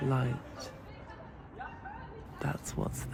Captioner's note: street sounds